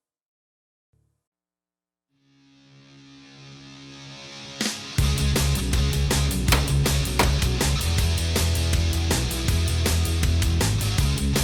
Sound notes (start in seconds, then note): 4.5 rock music; 6.4 banging